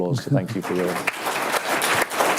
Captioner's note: applause